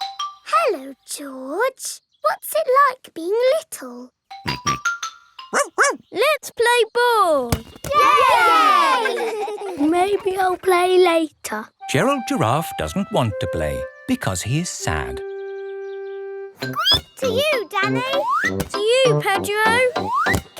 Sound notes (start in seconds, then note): 4.3 snorts; 5.5 barks; 7.9 all cheering and laughing; 16.6 squeaks